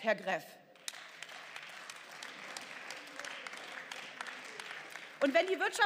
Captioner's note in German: Beifall